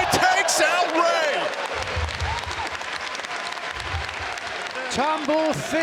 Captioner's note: audience applauds